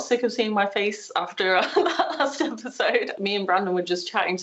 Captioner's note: laughing